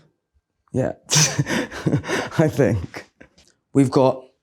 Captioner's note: Adwoa giggling